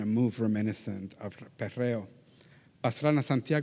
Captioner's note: faintly speaking